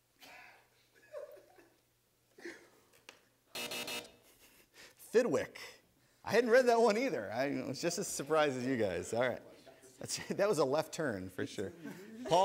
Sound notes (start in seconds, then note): 0.9 chuckles; 3.5 buzzer